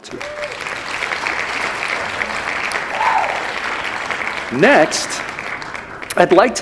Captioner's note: applause